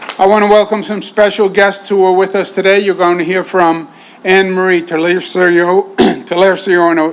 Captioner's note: applause